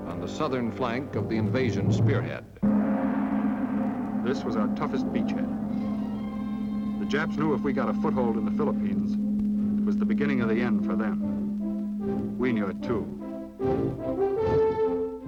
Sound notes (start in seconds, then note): 2.7 gong crashes; 5.9 dramatic orchestral music